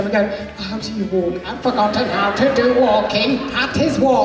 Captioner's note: in robot voice